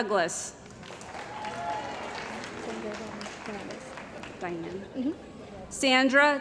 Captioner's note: cheering & Applause